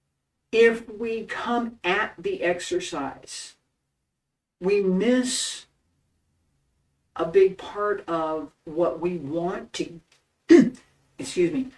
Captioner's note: cough